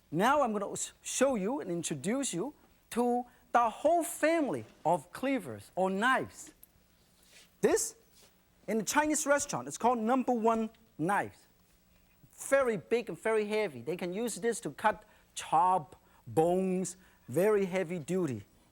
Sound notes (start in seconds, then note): none